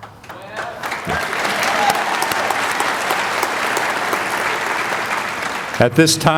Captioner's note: applause